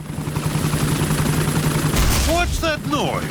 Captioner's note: whirring; thuds